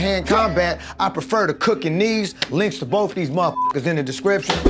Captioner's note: beep